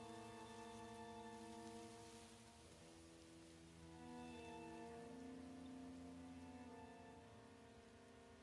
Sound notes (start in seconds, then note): 2.3 brush rustling